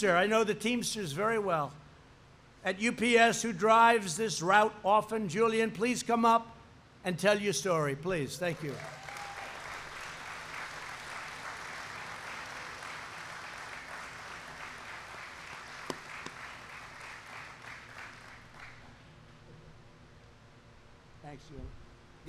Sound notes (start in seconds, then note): 8.4 applause